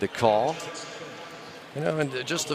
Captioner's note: pa announcement